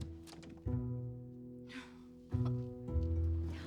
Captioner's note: whimpers; indistinct chatter, car horn honks